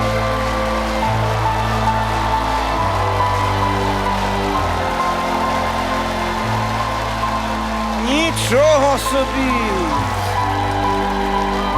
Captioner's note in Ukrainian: оплески